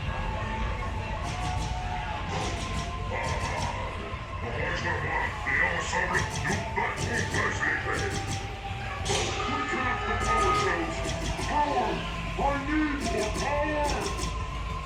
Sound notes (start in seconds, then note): 3.1 Zurg speaks French